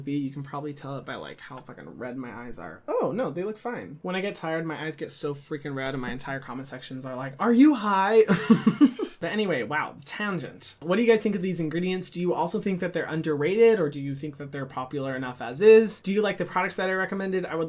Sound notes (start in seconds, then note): 8.3 laughs